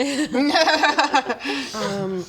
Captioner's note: not reassured laughter